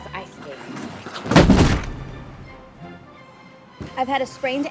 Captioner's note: woman thuds